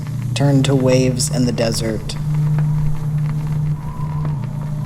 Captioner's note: sound of dry desert wind